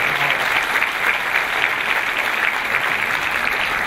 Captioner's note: clapping